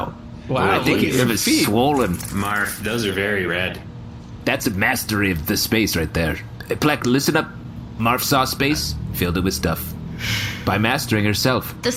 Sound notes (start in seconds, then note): none